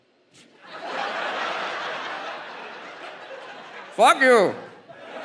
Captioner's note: audience laughs